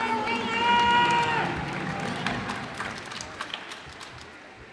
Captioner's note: cheers and applause